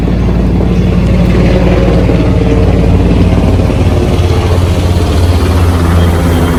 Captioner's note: the helicopter is right overhead and is quite loud